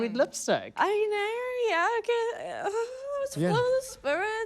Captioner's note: stammers